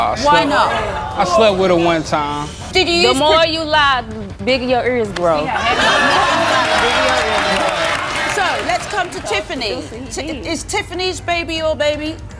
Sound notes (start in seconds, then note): 5.4 audience laughing